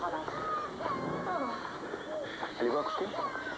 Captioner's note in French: L'enfant pleure